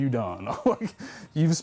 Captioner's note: laughs